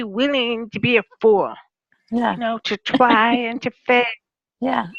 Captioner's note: laugh